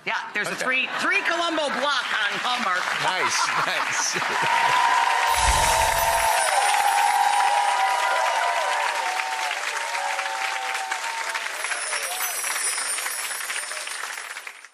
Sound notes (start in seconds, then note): 2.4 audience applauds; 4.7 audience cheers